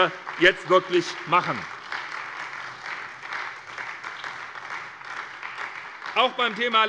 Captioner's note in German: Beifall bei der SPD